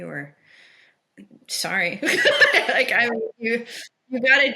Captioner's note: person laughing